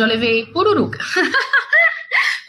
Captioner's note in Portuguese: risos